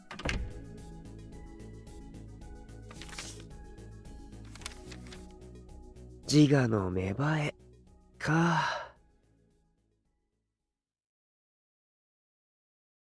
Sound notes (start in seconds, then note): 2.8 flipping through the book